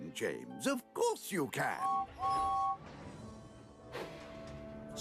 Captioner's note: toot-Toot!